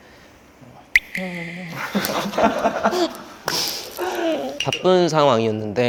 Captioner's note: crying again 💧